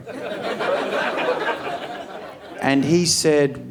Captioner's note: audience laughing